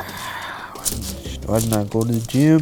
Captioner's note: sighing